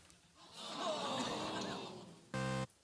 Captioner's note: audience groans